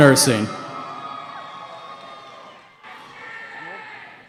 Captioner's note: cheering